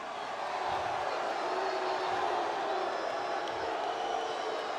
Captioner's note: audience booing